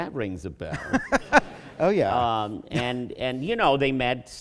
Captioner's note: laughter